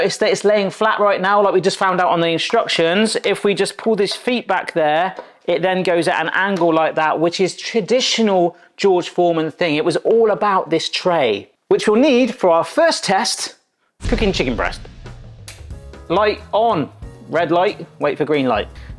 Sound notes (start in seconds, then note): 15.1 switch clicks; 15.5 gentle jazz music